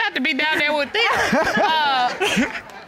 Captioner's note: all laughing